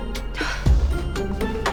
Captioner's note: sighs